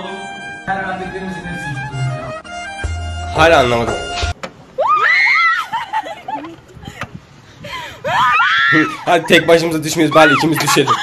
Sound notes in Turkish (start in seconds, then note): 4.8 Bağırıyorlar